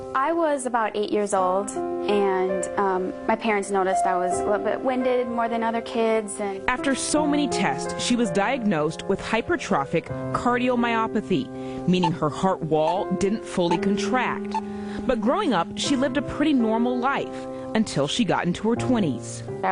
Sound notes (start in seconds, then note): 6.4 voiceover; 13.6 heart monitor beeping